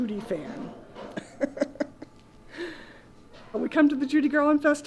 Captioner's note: laughing